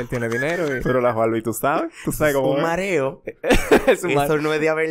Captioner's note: laughs